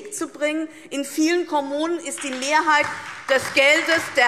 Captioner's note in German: Beifall DIE LINKE und vereinzelt SPD